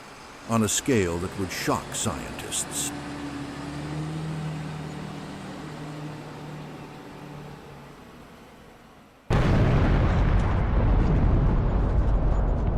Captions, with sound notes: on a scale that would shock scientists. [bus engine] [large explosion]